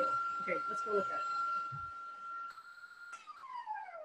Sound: mixer whirring

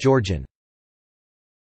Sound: Georgian

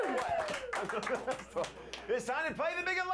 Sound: audience cheering

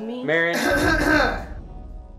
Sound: coughs obnoxiously

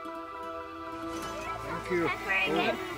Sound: children chattering

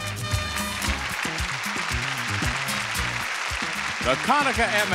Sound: audience cheering

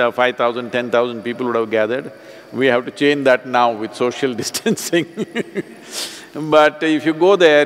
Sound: laughs

